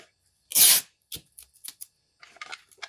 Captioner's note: sellotape squeaking